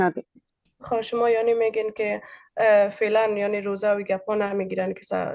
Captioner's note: speaking in Dari